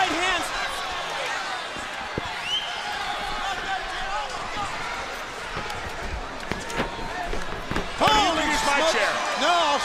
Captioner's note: crowd chatter